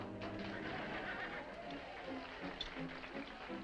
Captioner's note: dramatic music; all applauding